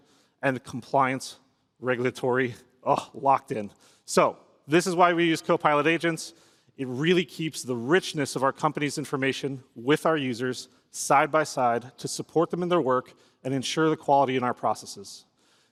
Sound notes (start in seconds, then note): none